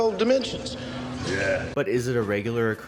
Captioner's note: sarcastically